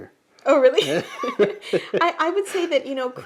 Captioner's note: laughs